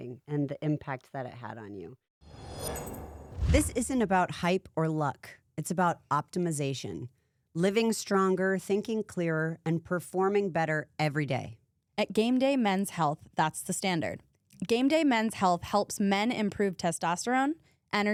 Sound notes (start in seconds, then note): 2.3 scene whooshing